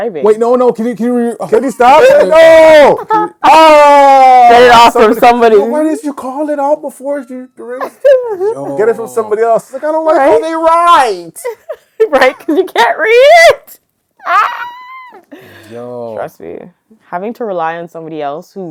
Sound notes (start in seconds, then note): 1.9 laughing; 7.7 laughing; 14.2 screaming